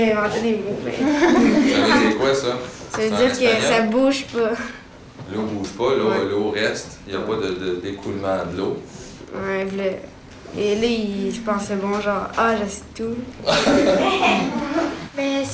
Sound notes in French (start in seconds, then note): 13.4 rires